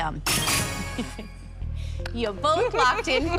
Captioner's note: chime, chime